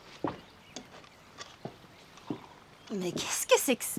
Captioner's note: birds chirping